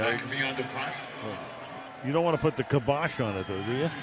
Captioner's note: pa announcement